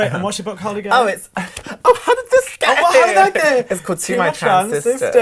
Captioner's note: laughs